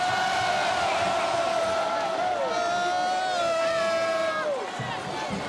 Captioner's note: crowd chants "Hooo"